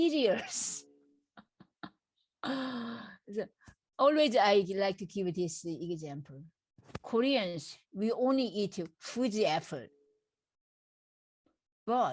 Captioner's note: laughs